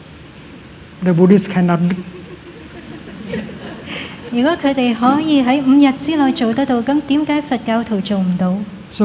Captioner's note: laughter